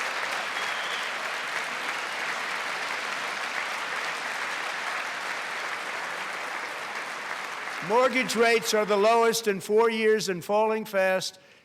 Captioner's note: applause